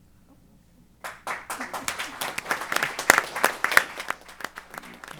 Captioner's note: applause